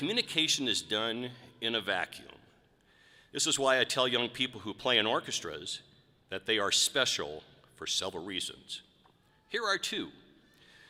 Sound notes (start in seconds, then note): none